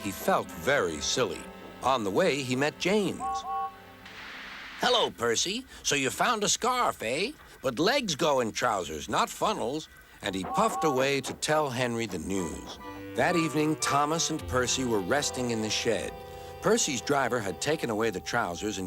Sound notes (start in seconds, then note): 2.8 toot toot